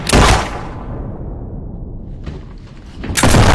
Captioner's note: guns banging